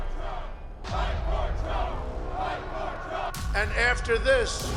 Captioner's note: crowd chanting